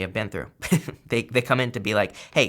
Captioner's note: laughs